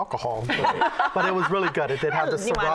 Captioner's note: laughter